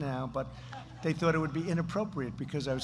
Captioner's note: laughter